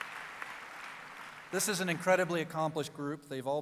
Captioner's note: applause